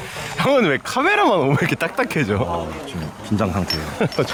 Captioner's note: laughing